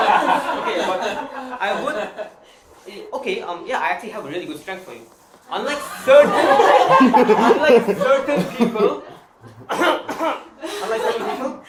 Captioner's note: ahem